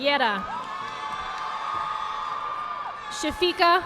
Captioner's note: audience applauding